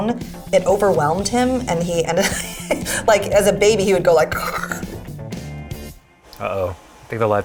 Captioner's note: gurgling